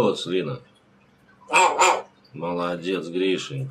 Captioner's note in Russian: Григорий лает